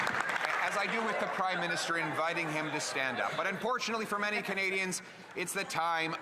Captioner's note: some Applause